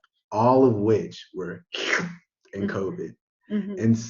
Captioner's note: slurps